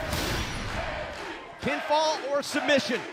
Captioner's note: fans chanting